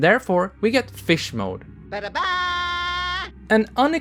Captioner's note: Crash Bandicoot: "Da-da-daaa!"